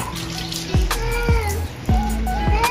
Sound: Mapa Meowing

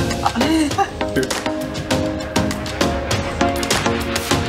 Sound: laugh

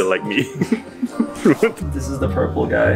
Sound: both chuckle

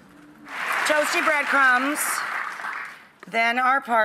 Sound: audience clapping

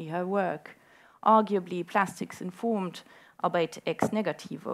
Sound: speaking foreign language

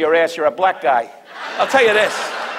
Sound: audience laughs

